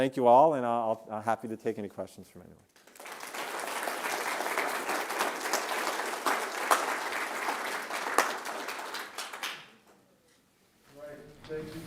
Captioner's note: applause